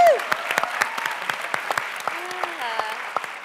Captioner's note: applause